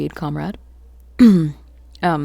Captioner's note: Emily clears throat